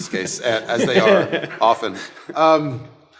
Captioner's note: panel laughing